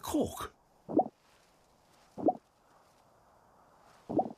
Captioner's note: popping